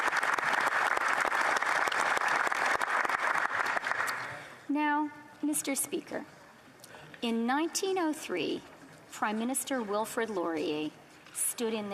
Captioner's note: applause